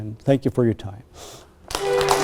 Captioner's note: applause